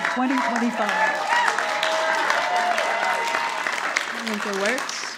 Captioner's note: audience applauding